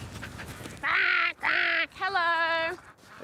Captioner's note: quacks aggressively